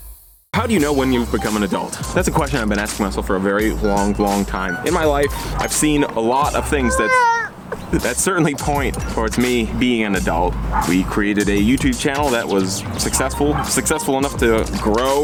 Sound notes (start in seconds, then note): 6.7 baby cries; 6.8 chuckle